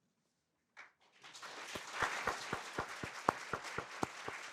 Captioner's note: all applauding